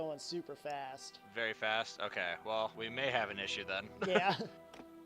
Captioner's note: laughs